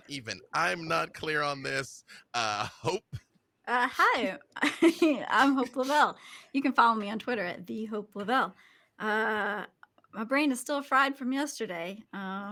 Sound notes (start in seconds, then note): 4.9 laughs